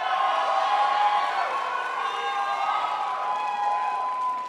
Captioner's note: crowd applauds